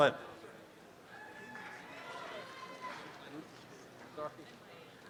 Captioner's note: applause